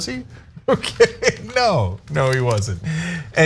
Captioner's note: laugh